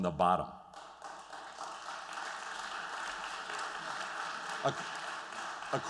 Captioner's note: applause